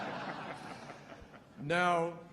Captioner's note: laughter